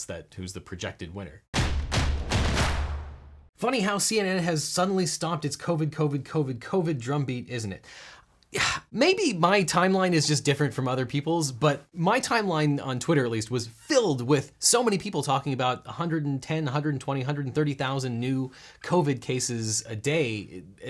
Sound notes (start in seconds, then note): 1.5 dramatic percussion; 8.4 scoffs